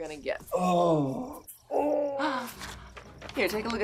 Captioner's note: Radovan moans